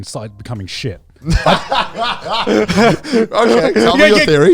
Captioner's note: laughing